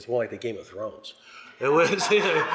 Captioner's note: laughter